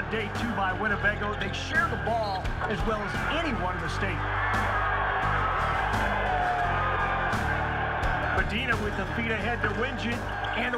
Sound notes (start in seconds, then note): 7.3 cheering; 7.3 imposing rock music